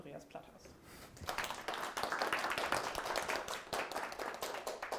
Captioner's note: audience applauds